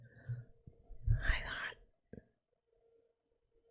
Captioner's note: whispers